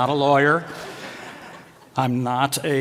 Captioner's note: laughter